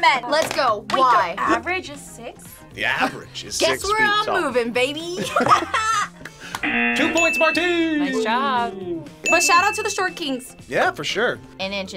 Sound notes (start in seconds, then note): 5.2 both laugh; 6.6 buzzer